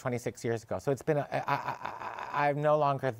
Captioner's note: stammers